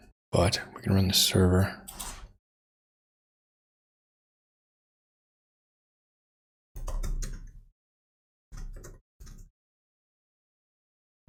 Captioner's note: blank Audio